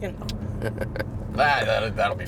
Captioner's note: laughing